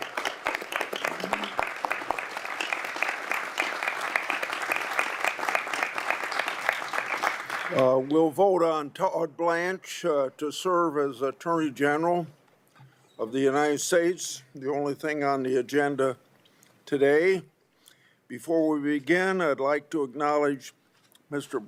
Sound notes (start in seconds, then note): 2.2 applause